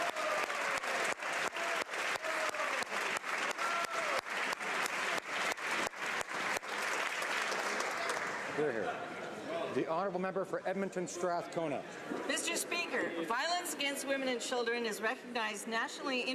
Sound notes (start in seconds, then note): 5.2 applause